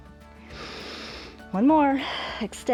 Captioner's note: inhales